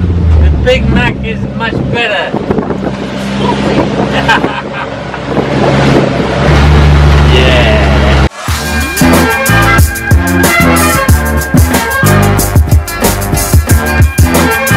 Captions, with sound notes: The Big Mac is much better. Stop it. (laughter) Yeah!